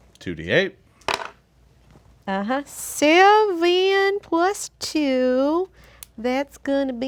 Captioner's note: dice roll